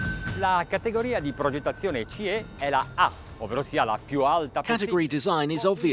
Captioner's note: exotic, triumphant music; speaking foreign Language